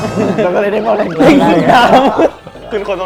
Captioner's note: laugh